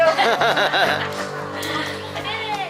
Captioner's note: laughter